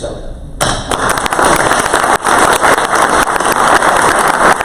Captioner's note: crowd applause